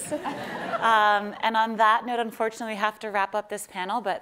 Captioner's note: laughing